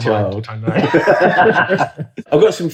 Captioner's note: laughing